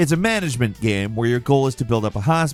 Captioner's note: none